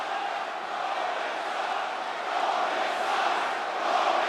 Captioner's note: audience chanting